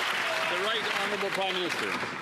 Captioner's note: applause